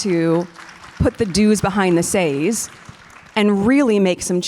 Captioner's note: audience applause